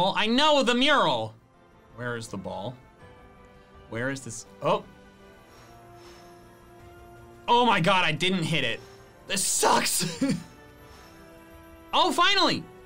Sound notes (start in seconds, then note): 10.9 laughs